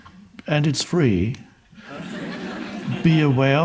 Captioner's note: audience laughing